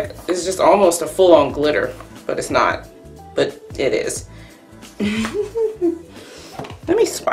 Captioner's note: laughs